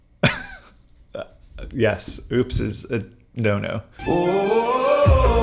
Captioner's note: laughs; dramatic hip-hop music